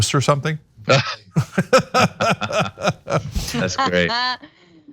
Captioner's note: laugh